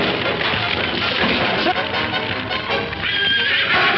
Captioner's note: horse whinnying; dramatic music; fire crackling